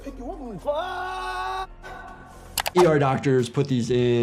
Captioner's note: yells